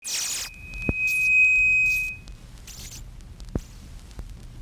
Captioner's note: mic feedback